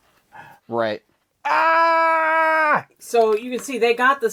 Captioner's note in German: Schrei